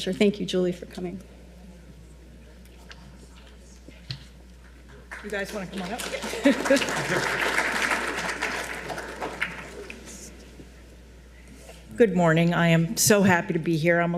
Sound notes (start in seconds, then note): 6.0 laughs; 6.7 audience applauding